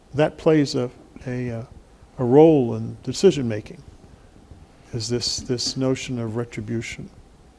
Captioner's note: none